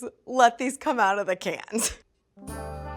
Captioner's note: laughs